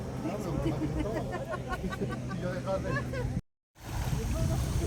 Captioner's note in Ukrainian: сміх